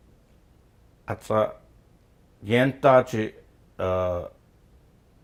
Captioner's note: speaking Gwich'in